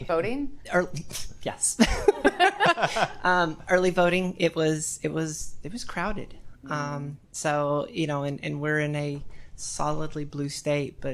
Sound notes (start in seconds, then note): 1.8 attendees laughing